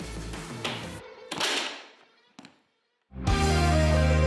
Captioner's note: wood cracking; fast music